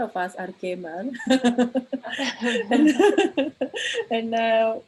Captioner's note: laughter